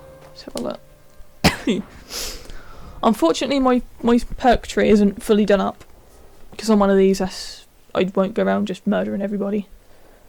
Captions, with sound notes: Lets have a look *cough* unfortunately my.. my perk tree isn't fully done up because I'm one of these where I won't go around and murder everybody